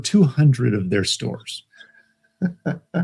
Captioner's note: laughs